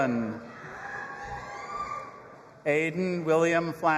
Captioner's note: audience applauding and cheering